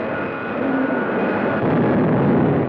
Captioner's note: comets zooming; explosion blasts